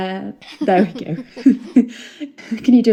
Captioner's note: laughing